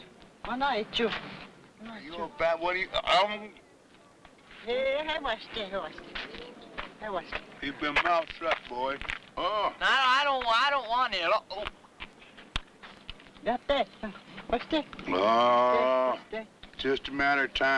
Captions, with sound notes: (speaking in foreign language) - Keep your mouth shut, boy. - I don't want it. (speaking in foreign language) - Just a matter of time.